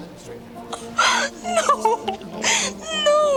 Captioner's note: gasps